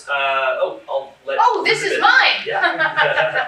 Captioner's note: laughter